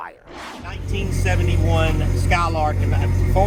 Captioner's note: car engine running loudly